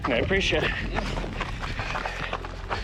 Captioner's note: puffing; footsteps crunching